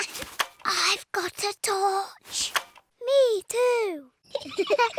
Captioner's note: whispering; both giggle